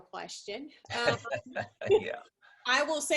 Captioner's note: laughing